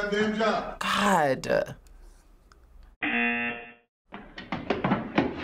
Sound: buzzer

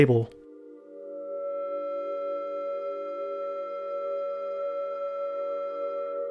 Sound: computer Generated Sound

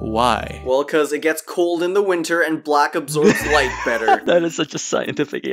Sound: laughs

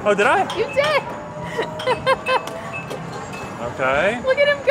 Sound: laughs

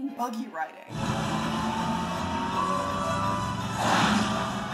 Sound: car engine rumbling; cars whooshing

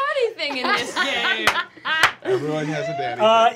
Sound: laughing

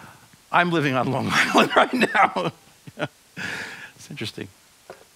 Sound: laughs

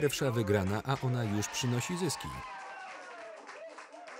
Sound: crowd cheering

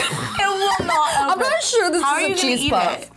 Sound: laughs

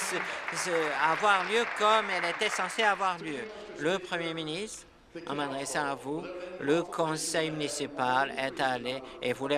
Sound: some Applause

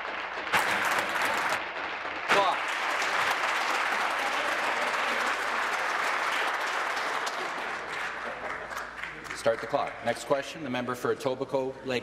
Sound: applause

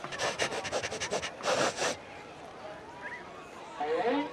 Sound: Scooby sniffing

